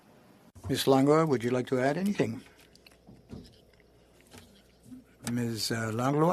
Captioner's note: speaking French